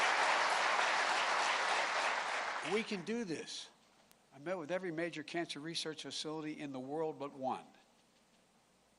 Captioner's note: applause